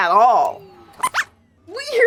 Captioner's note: squeaks squeaks